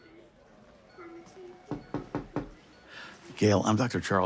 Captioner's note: knocking at door